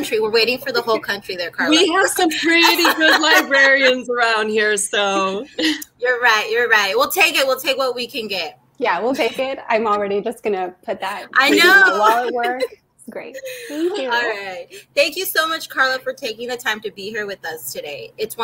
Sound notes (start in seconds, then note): 11.8 speaking foreign language